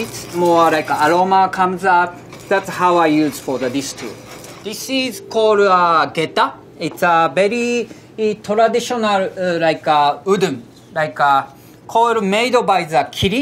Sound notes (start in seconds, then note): 0.0 surikogi grinding; 4.9 text chiming